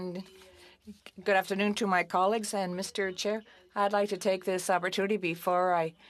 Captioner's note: speaking French